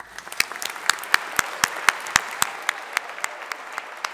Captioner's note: audience applauding